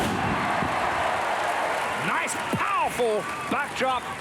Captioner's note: applause